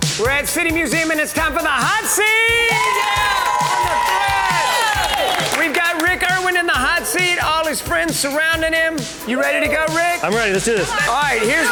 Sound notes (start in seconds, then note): 1.8 crowd cheers and claps